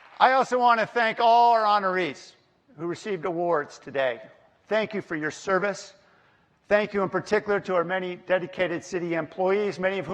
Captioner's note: applause